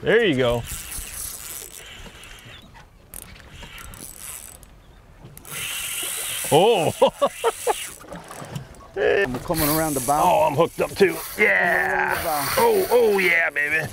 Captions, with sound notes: There you go! (reel zipping) Whoa! (laughs) - I'm comin' around the bow. - Oh, I'm hooked up, too. Yeah! Oh, oh, yeah, baby!